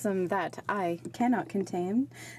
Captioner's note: speaking in french